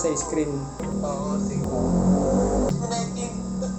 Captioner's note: motorcycle passing